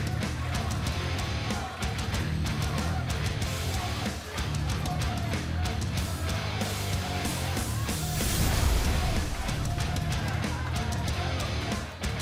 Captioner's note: crowd cheering